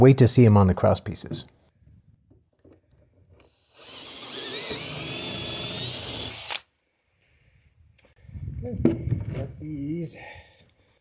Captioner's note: drilling